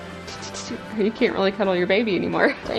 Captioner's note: laughing